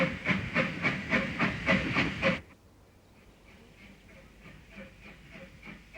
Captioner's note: train passing